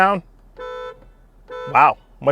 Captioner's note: car hooting